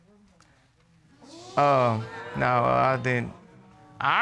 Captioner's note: audience exclaiming